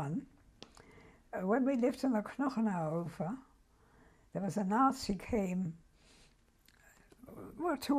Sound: german

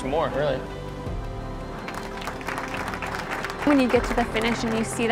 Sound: runners clapping

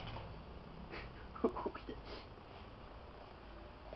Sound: laughs

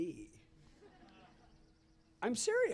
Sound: laughter

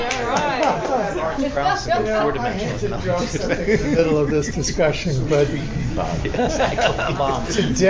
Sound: laughter and many speaking

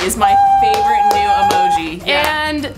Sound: high pitch noise

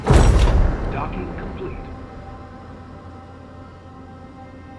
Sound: computer voice

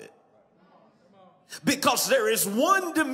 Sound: congregation agrees

